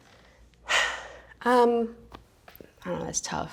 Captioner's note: sighing deeply